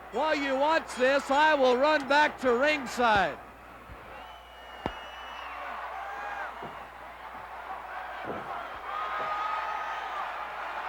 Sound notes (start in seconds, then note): 3.7 crowd cheering; 4.0 crowd yelling